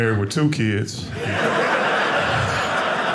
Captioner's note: audience laughing